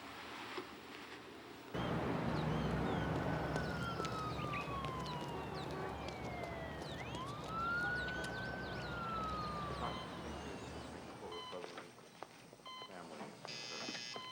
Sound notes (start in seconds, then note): 1.7 birds chirping; 1.7 sirens whirling; 11.0 machines beeping